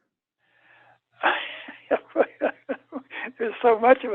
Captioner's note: laughs